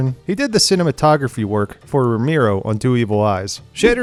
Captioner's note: none